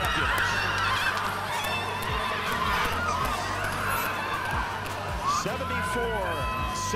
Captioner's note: cheering